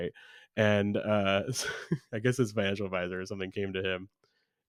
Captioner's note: laughs